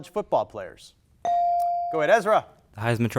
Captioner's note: buzzer dings